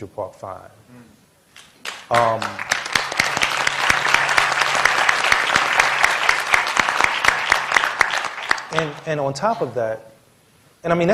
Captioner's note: applause